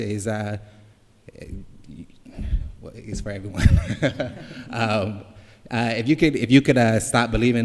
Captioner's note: laughing